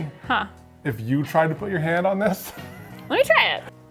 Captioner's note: laughs